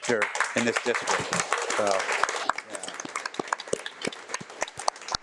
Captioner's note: audience applauding